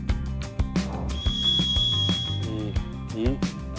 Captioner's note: sound of brain overheating